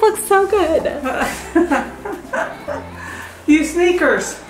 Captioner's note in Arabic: تضحك